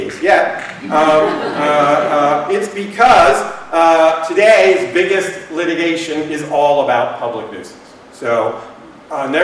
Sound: laughter

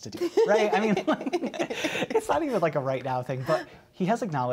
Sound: laughter

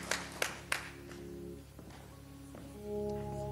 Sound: applause

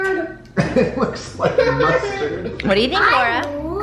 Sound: laughs

